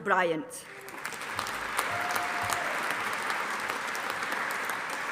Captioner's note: audience applauding